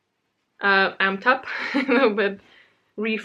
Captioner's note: laughs